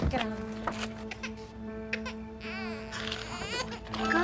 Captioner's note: cries